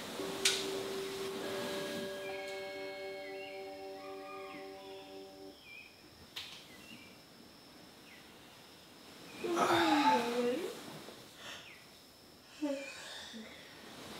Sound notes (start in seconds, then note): 0.0 gentle music; 3.4 birds chirping; 9.5 yawning